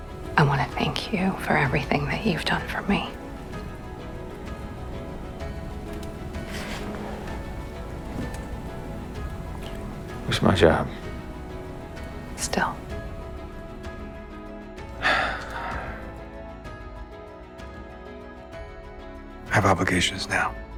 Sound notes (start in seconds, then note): 15.0 Nick exhales